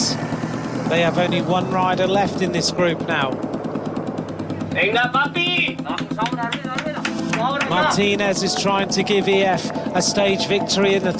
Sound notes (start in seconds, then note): 4.4 speaking Spanish; 5.8 claps